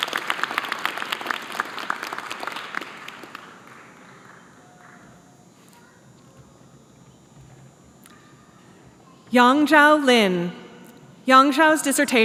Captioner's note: applause